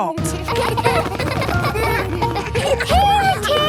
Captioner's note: laughter